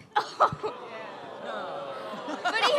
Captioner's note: audeince: groans and "ohh/aww"